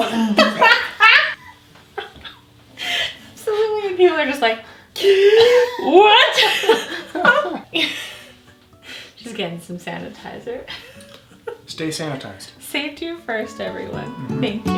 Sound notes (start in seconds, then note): 0.0 chokes and laughs; 4.7 gasps; 11.0 laughs